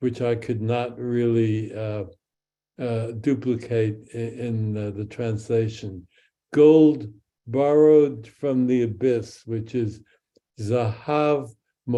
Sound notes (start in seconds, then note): 9.9 speaks in Hebrew